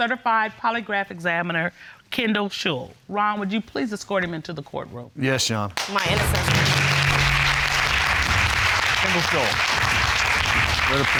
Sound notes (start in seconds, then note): 5.7 audience clapping